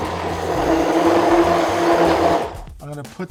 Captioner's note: blender buzzing